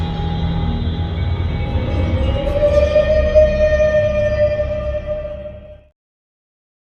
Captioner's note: pained howl